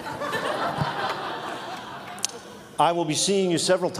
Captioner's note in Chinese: Laughter; 笑聲